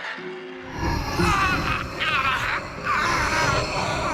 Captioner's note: yelling